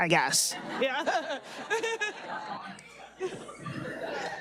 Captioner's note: audience laughing